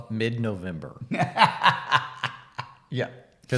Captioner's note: laughs